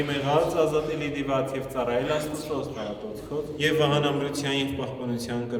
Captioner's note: preaching in Armenian